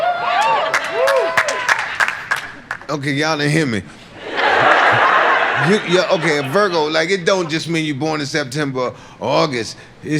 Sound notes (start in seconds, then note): 0.1 laughter; 4.1 audience laughs